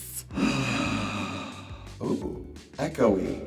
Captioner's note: exhaling forcefully